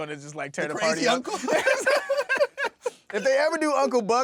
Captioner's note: laughing